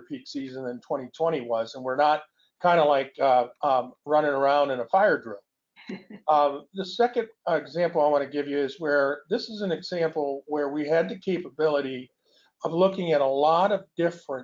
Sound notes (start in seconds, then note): 4.7 laughs